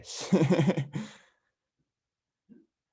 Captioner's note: laughs